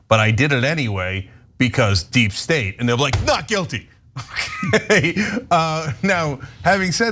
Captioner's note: laugh